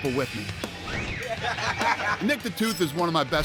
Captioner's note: laughing